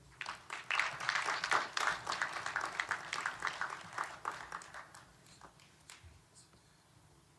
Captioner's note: applause